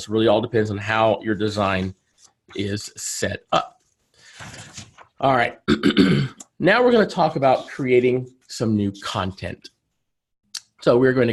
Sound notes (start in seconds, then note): 5.7 clears throat